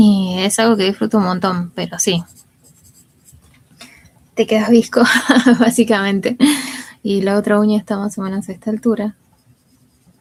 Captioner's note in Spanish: risas